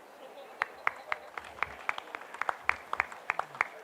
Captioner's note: applause